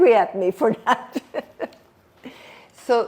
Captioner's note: laughing